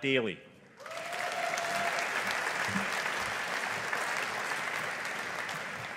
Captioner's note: audience applauding